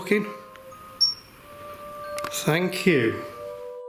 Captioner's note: high-pitched beeping